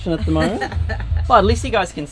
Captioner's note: mum laughing